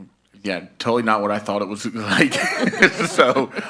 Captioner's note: laughs